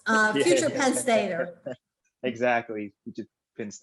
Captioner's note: laughing